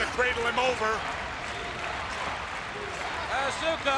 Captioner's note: crowd cheering